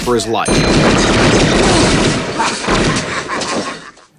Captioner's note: gun shots